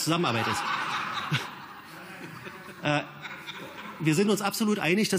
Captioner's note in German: Gelächter